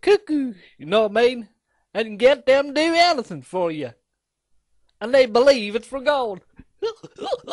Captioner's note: laughs